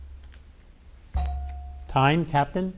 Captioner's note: bell dings